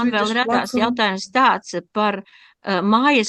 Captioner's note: talking in Latvian